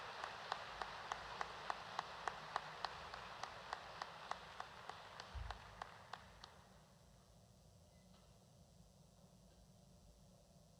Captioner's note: applause